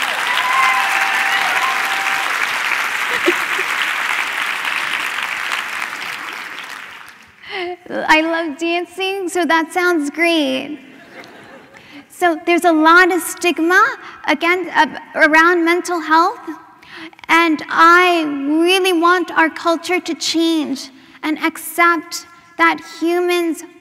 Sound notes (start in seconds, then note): 0.2 laughter; 5.6 applause